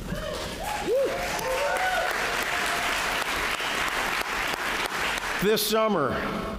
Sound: applause

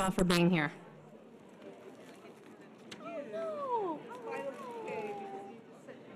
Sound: audience murmuring

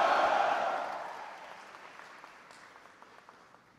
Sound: applause

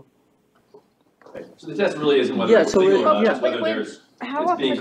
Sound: audience chattering, indistinct

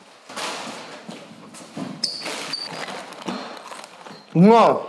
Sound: chips crunching

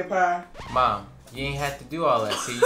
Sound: record scratch

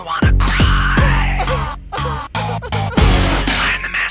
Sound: fake crying

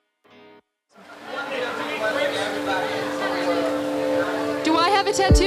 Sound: reporters talking

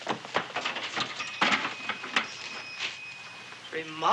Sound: doorbell jingling

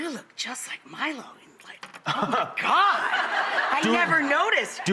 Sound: laughs

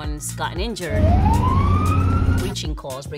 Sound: siren wailing

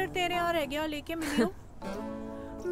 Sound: chuckles

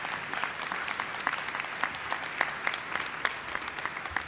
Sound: applause

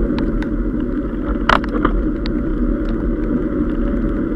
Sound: gear shifting

